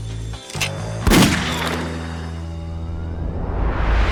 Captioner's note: gunshot